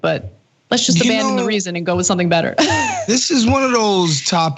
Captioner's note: laugh